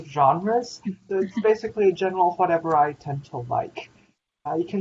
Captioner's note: laughter